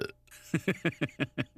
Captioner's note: belches; laughs